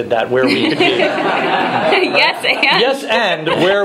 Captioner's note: laughing